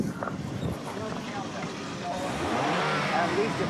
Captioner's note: engine revving